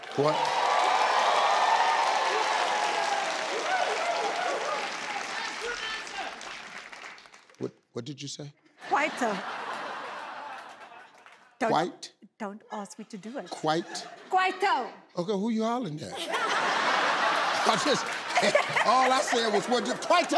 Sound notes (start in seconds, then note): 0.0 applause